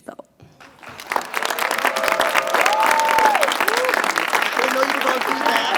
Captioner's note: audience clapping and cheering